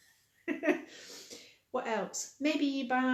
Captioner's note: laughing